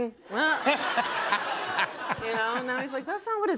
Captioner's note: laughter